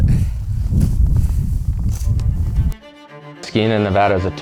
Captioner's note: wind blustering